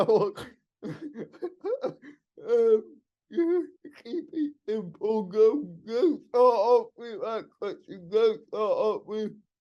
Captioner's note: laughing